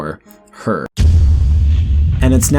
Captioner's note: dramatic rumble